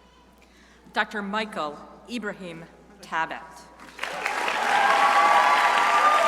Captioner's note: crowd applauding